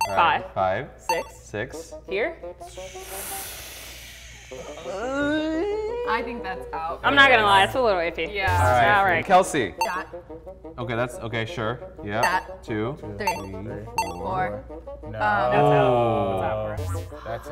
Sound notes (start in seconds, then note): 2.6 inhales; 4.4 groans